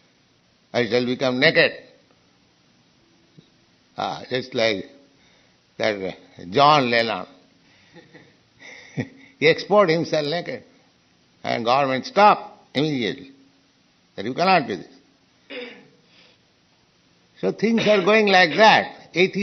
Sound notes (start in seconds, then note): 7.9 chuckling